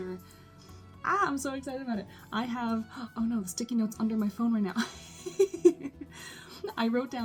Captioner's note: laughs